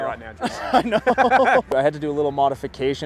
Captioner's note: both laugh